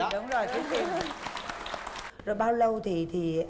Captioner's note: applause